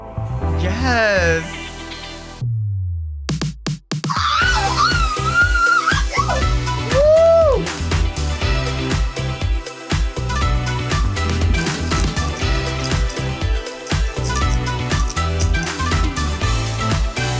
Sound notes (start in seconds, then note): 2.5 upbeat music; 4.0 Marguerite screaming; 4.7 upbeat music; 6.8 Delta cheering; 7.1 upbeat music; 11.4 beeds rattling; 12.3 upbeat music